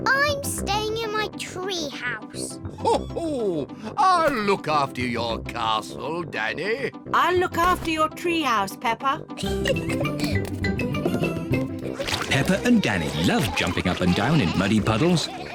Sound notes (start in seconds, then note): 2.8 laughs; 9.4 giggles